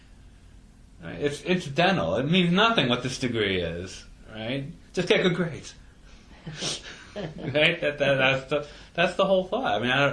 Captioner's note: laughs